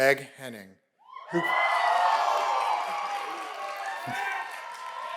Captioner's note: cheers and applause